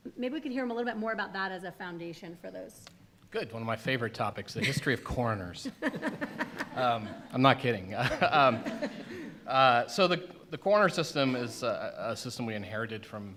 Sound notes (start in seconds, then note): 5.6 laughter